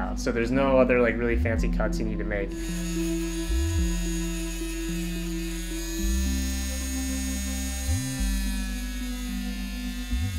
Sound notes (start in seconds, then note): 2.5 tool whirs